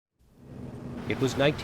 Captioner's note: cars whoosh